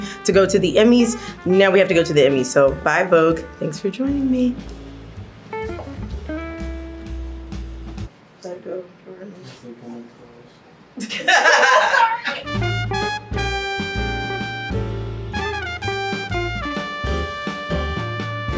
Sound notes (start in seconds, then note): 5.0 upbeat jazz music; 11.0 laugh; 12.3 upbeat jazz music